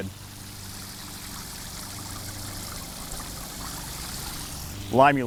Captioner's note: pool water splashes